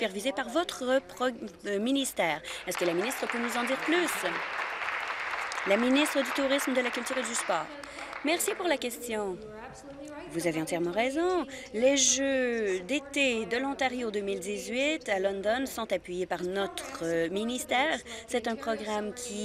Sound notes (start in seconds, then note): 5.3 applause